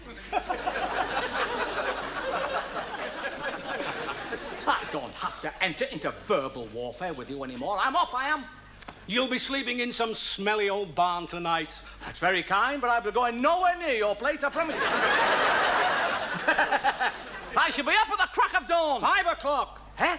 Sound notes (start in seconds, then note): 0.0 audience laughs; 0.0 Wise laughs; 14.5 audience laughs; 16.2 Morecambe and Wise laugh